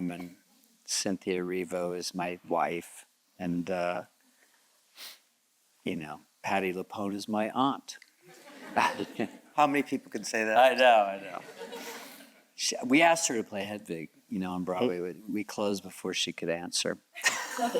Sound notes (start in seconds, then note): 8.3 audience chuckles